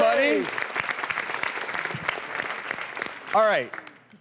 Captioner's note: applause